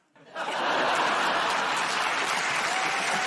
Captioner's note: laughter; cheers and applause